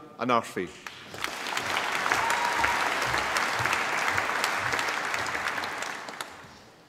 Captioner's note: applause